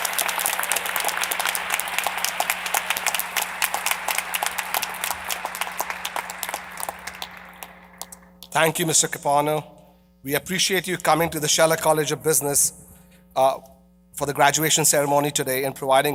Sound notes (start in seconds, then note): 5.8 applause